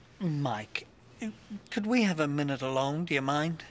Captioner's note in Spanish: none